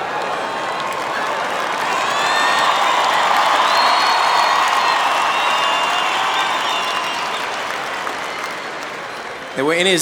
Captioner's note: aplause